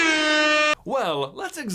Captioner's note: air horn